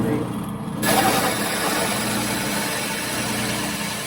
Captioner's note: drill press whirring